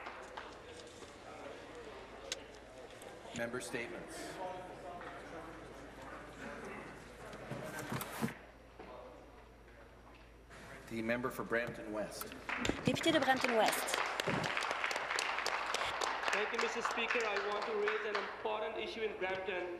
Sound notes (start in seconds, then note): 5.0 applause